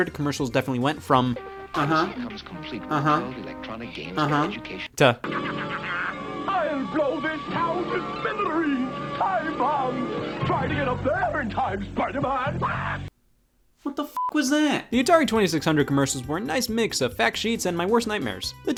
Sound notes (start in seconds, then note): 5.6 Green Goblin laughs; 14.1 beep